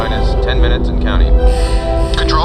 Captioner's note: alarms